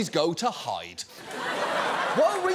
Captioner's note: laughter